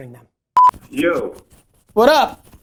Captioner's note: beep